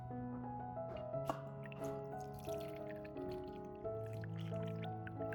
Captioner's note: water